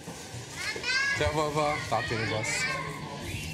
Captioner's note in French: Arab spoken audio